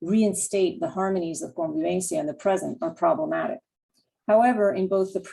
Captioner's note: spanish